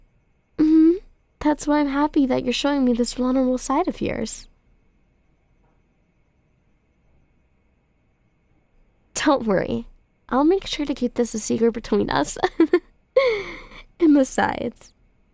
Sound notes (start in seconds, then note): 12.4 soft laugh